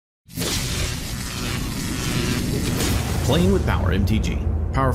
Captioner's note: logo buzzing